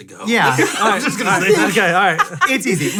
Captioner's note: all laughs